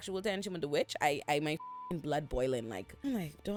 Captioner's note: beep